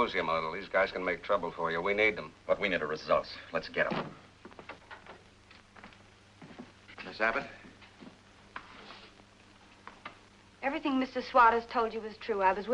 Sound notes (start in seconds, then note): none